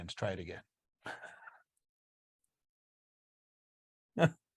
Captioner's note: chuckles